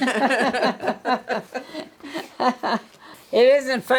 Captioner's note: women laugh